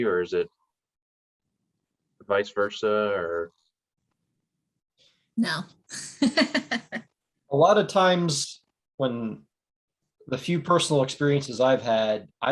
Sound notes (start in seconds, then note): 6.2 laughing